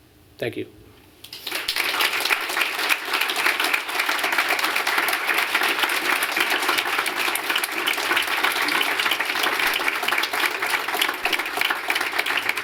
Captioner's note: applause